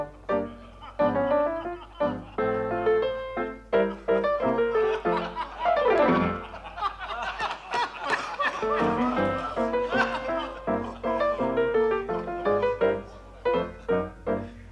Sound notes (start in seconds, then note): 6.0 laughter from crowd